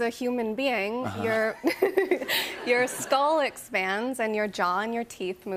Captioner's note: laughs